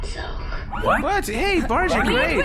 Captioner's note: the crew exclaims in surprise